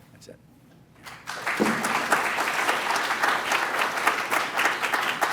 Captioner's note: applause